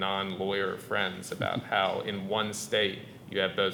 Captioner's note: chuckling